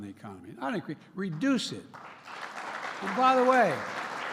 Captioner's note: applause